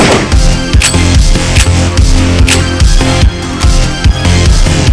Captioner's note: gun fires; gun clicks; dramatic electronic music